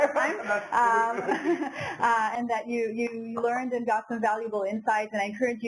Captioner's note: laugh